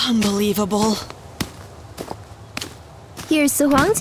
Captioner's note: Fenghua's footsteps